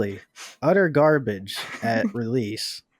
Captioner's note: giggles